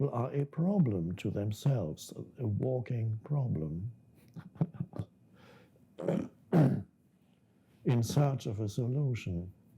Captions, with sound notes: to themselves, a walking problem (chuckles). In such of a solution,